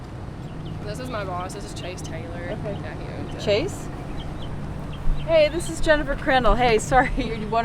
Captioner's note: on phone